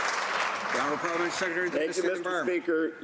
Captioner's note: some Applause